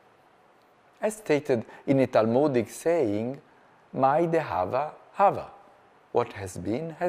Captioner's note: speaking hebrew